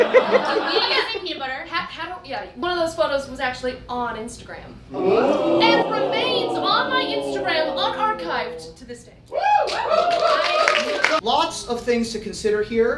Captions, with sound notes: (audience laughing) - We ate the peanut butter. One of those photos was actually on Instagram. (audience oohing) And remains on my Instagram, un-archived to this day. (audience cheering) - Lots of things to consider here.